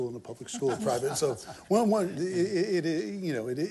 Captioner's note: laughter